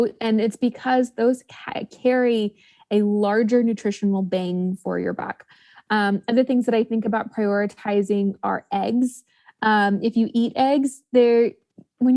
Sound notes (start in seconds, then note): none